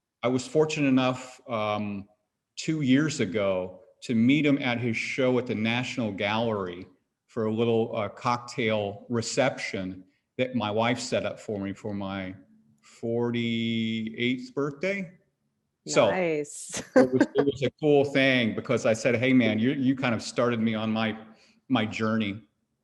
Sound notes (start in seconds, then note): 16.7 chuckles